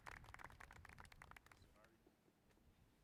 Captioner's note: applause